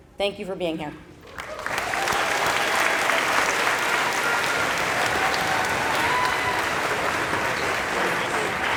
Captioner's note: applause